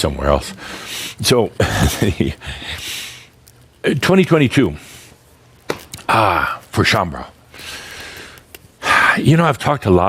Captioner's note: Adamus chuckles